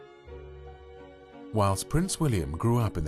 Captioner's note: voiceover